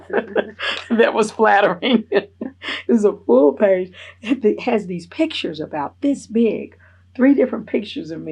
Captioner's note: laughs